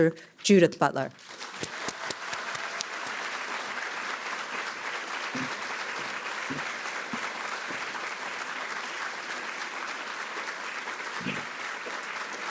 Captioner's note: applause